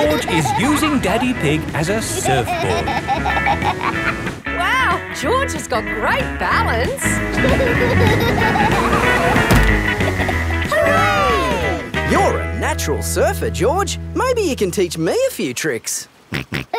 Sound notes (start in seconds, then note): 7.2 laughing